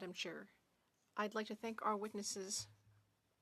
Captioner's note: speaking French